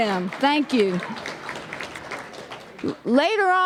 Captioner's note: applause